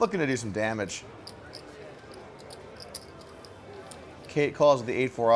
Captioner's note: soft clacking